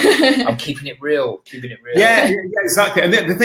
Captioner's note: laughing